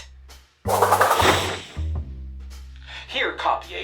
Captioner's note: transformation sound